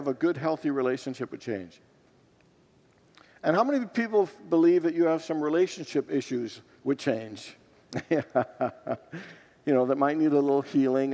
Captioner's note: laughs